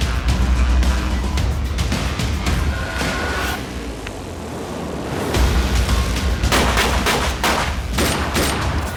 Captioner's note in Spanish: Disparos